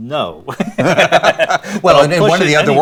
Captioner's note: both laughing